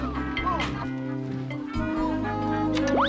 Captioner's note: laughs; zooming